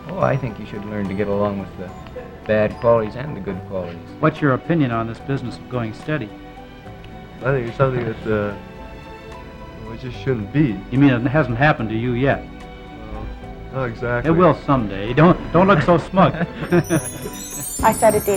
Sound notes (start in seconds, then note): 16.1 chuckles